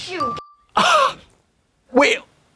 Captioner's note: Katya puffs